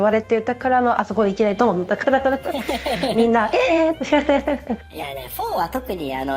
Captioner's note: laughs